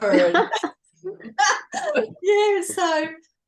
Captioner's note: everyone is laughing